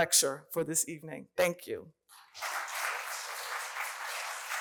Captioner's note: appluse